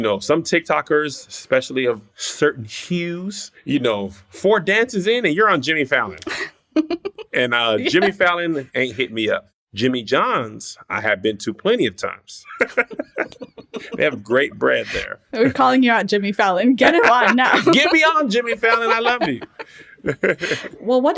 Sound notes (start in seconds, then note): 6.8 laughs; 12.4 laughter; 16.8 laughter